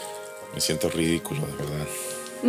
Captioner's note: chuckles